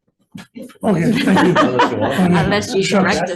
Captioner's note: members laughs